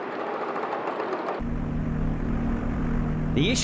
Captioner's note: engine rumbling